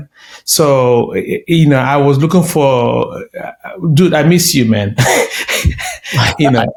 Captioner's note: laughing